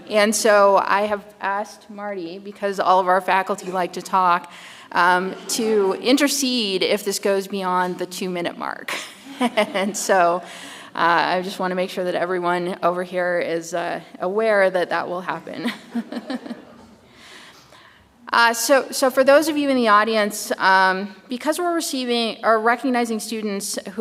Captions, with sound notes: And so I have asked Marty, because all of our faculty like to talk, to intercede if this goes beyond the two-minute mark. (chuckles) And so I just wanna make sure that everyone over here is aware that that will happen. (chuckles) So for those of you in the audience, because we're receiving, or recognizing students